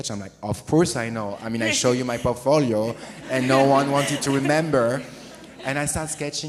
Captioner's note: audience is laughing